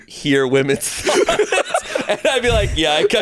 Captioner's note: everyone laughs